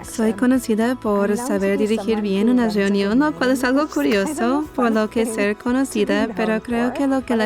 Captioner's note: laughs